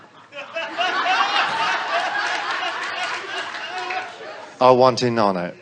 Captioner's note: audience laughs